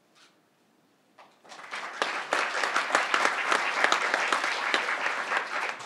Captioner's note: crowd applauding